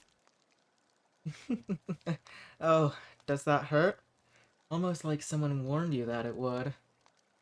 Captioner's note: laughs